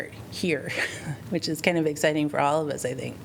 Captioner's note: laughter